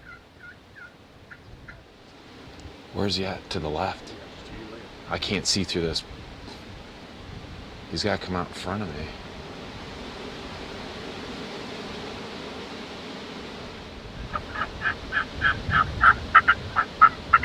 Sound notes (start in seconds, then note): 10.4 leaves rustling in wind; 14.2 turkey calling